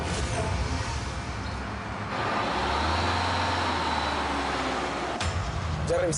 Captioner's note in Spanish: Ruido de los carros